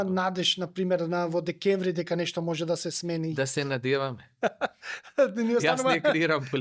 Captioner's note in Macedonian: смеа